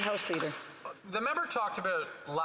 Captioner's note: some Applause